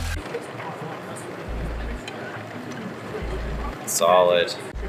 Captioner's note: conveyor belt whirring; film rewinds